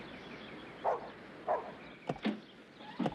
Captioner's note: dog barking